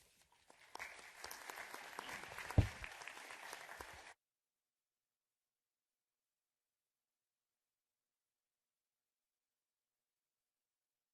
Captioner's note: applause